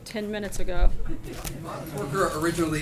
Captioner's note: laughter